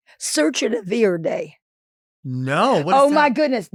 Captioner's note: Marguerite speaking in foreign language